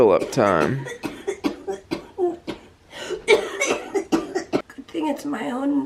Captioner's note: coughing